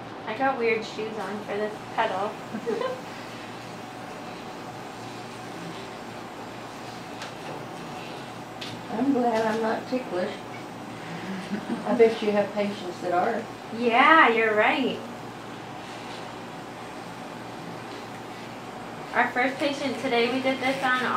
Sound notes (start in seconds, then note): 2.5 giggles